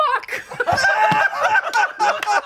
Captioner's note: laughter